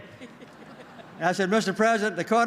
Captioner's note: laughter